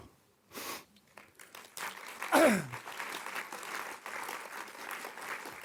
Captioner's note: audience applauds